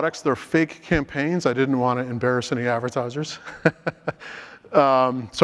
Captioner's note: laughs